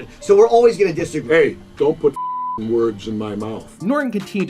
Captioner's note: beeping